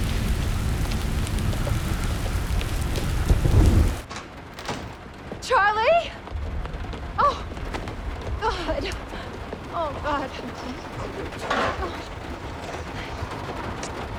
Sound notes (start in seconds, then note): 4.5 door opening